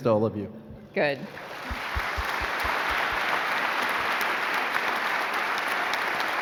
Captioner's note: applauding